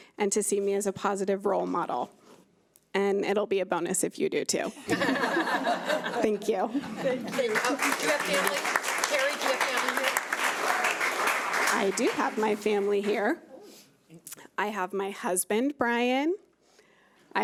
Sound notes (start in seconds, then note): 4.8 laughing